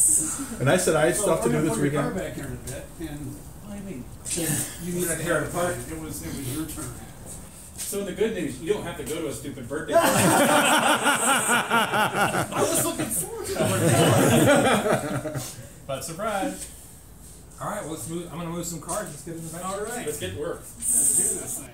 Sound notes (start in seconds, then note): 9.9 laughter